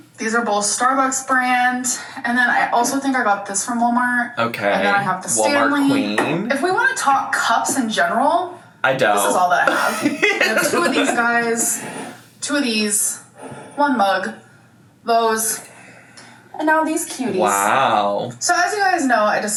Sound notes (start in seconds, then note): 9.6 laughs